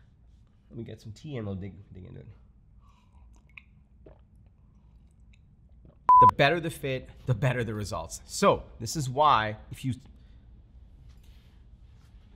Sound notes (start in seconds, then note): 3.1 gulping; 6.1 audio beeps